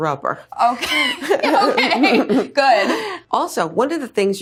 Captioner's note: laughs